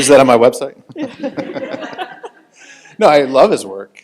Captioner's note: panel and audience laughing